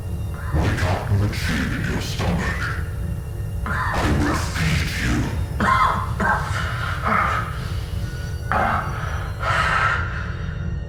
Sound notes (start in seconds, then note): 7.1 coughing